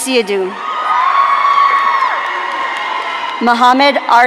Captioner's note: audience cheering